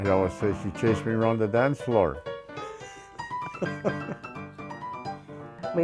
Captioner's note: laughs